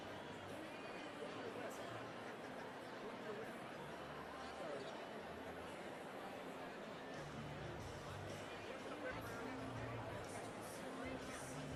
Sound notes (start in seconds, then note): none